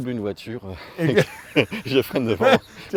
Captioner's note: laughs